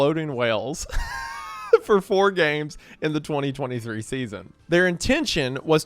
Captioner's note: laughs